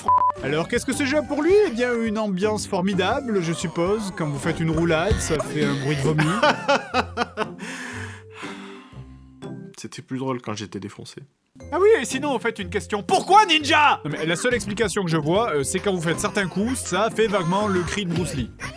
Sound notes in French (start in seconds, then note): 7.6 Soupir